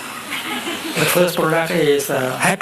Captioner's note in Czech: smích